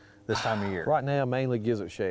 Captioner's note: sighs